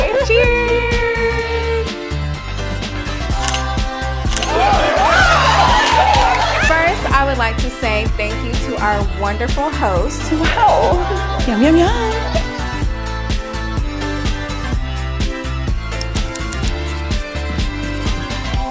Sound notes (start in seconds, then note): 4.3 all cheering; 12.6 lively music